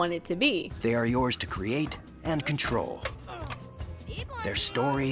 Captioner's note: Sims 4 Promo Voiceover